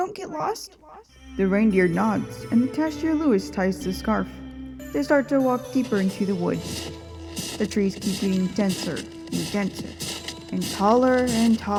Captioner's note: walking in snow sounds